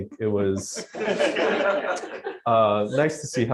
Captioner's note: laughter